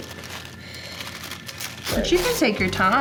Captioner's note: paper rustling